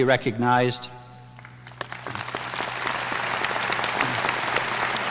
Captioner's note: applause